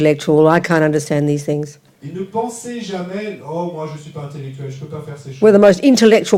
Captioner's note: French